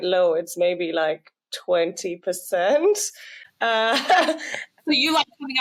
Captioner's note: laughs